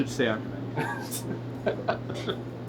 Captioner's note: laughs